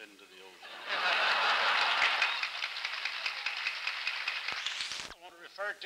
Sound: laughter, applause

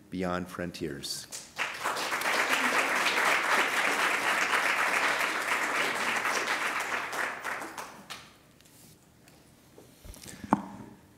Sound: applause

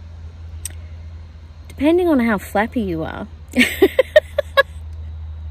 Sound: laughs

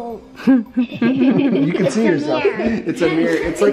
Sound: family laughs

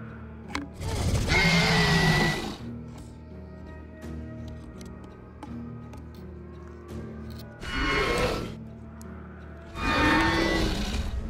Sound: Scorpius Rex sounds

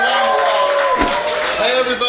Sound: cheering

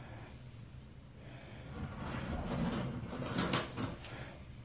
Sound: heavy breathing; bucket handle clinking

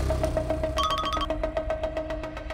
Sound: phone rings

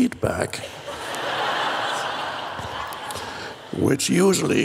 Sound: crowd laughs

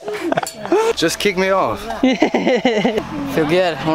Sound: all laughing; laughing

